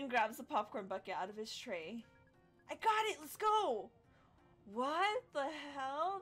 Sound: gasps

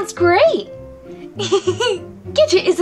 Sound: giggles

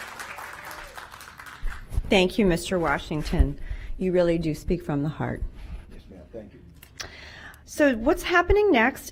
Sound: cheers and applause

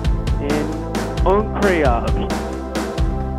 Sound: speaks French

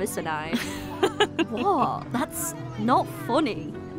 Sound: laughs

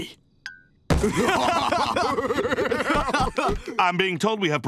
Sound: laughing

